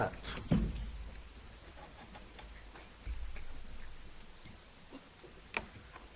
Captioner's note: whispers indistinctly